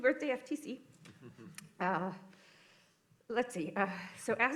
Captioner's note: laughter